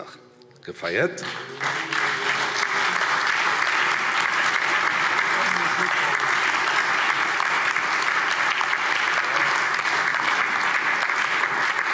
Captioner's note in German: Allgemeiner Beifall